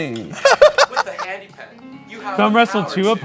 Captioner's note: laughing